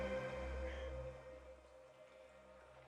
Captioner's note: sigh